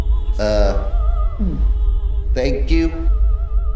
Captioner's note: gulps